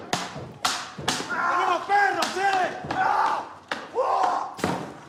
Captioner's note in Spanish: paseador grita